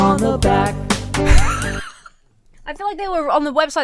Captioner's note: Emma wheezes